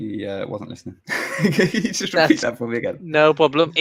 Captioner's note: laughs